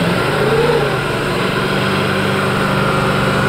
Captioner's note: car revs